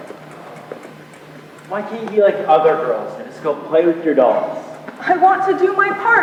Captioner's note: sighs